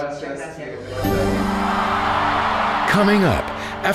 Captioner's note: audience cheering